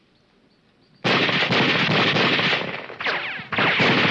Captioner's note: guns firing